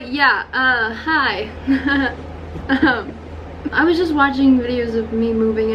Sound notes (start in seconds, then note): 1.7 fake laugh